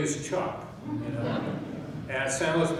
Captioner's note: chuckling